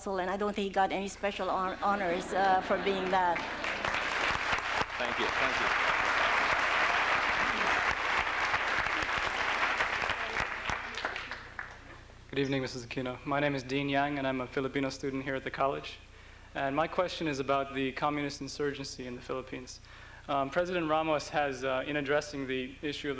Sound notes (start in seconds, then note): 3.7 applause; 6.0 applause